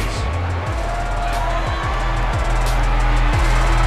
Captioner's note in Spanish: Gritos